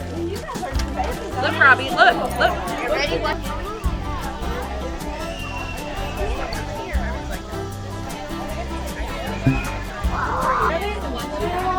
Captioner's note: upbeat music; indistinct background chatter